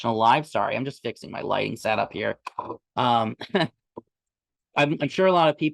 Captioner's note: chuckles